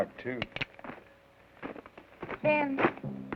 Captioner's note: gun cocks